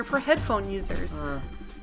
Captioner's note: slurs